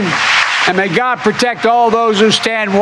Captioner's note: cheering and applause